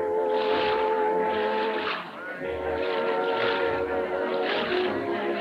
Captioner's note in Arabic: رش الماء